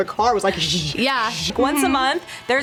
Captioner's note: imitates steam hissing